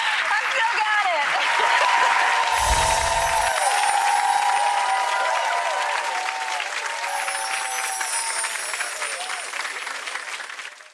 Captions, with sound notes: I still got it. (applause)